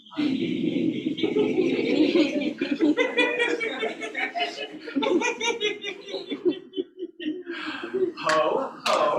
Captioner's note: laughter